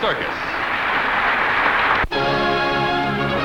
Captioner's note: applause